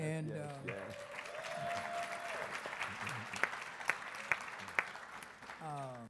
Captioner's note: audience applauds